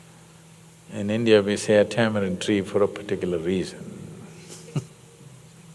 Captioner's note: laughs